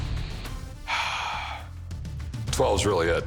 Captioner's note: sighs